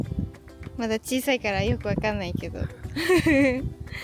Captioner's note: laughs